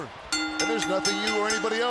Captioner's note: bell ringing